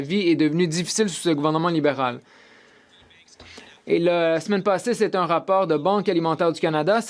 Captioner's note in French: voix de l'interprète